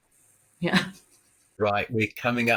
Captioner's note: chuckling